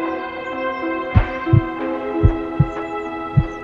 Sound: heart beating

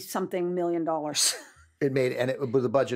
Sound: chuckles

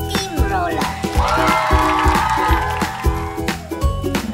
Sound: crowd cheering and applauding

